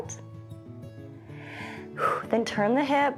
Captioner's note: inhales and exhales